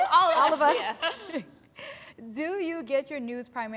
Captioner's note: all laugh